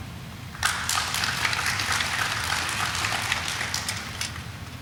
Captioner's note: audience applauding